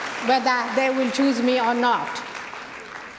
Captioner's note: cheering & Applause